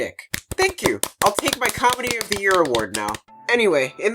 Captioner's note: applause